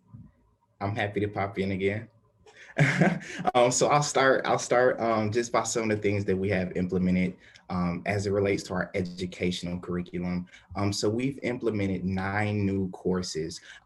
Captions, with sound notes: - I'm happy to pop in again (laughing). Awesome and so I'll start, I'll start. Just pass on the things that we have implemented as it relates to our educational curriculum. So we've implemented nine new courses